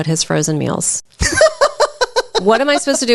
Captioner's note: laughs